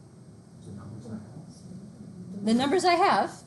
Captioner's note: murmurs